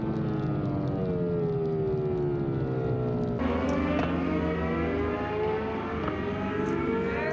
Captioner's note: engine roaring